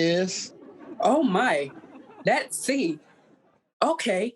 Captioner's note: audience laughing